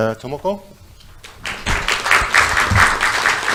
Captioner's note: audience applauds